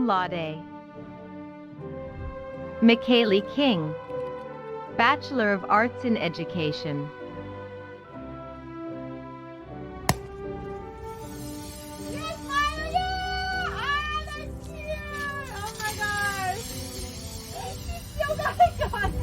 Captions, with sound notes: (bottle popping) (Champagne spraying) Yes, WSU, I'm a senior, oh my gosh, thank you so much.